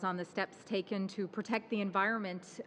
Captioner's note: speaking in french